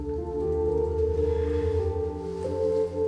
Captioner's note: sighs